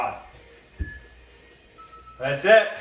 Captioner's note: beeping